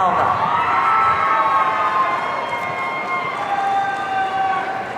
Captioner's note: audience cheering